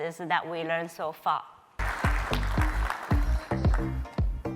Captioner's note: applause